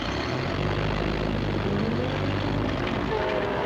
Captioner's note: engine revving